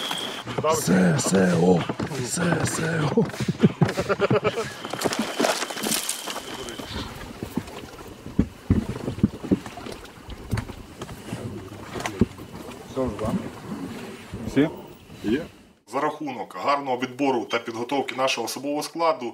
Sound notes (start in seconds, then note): 3.6 waves of laughter; 4.4 branches crackling sound; 7.2 boat boarding sounds